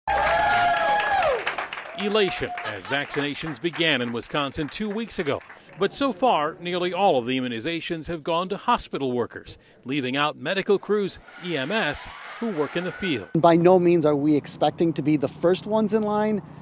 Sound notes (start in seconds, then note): 0.0 applause